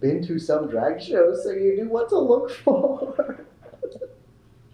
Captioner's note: laughter